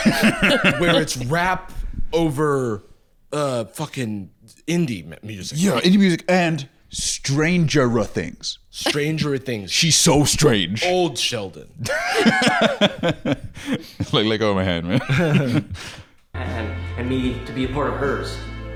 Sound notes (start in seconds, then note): 0.0 laughing; 11.8 laughs